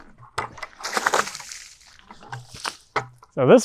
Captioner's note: water sloshing